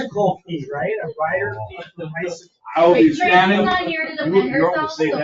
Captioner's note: members chattering